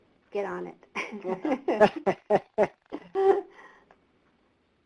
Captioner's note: laughter